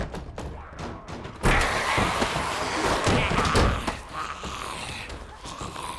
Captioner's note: zombies growling